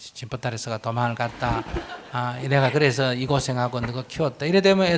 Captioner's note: audience Laughter